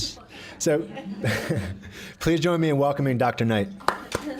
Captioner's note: chuckles